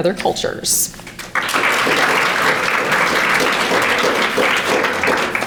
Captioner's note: audience applauding